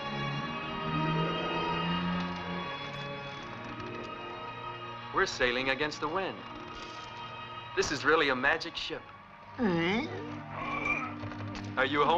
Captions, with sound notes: - We're sailing against the wind. This is really a magic ship. (vomiting) - Are you home sick?